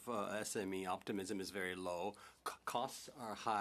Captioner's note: speaking in French